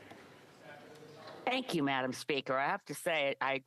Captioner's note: speaking French